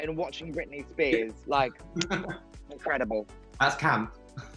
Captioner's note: giggling